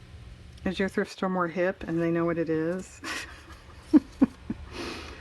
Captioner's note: laughs